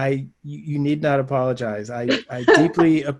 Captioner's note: laughs